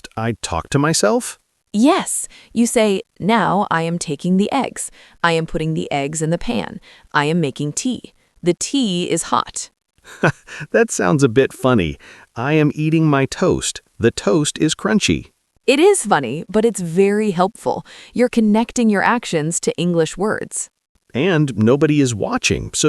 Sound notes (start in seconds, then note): 10.0 laughs